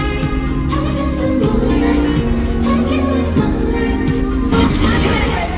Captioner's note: laughs